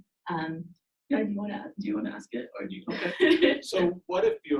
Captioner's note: laughs